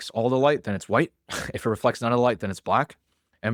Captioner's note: laughs